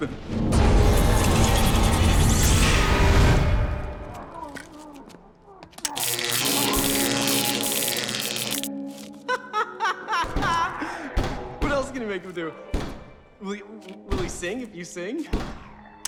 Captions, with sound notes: [frantic tones] [zapping] [laughs] What else can you make him do? Will he-- will he sing if you sing?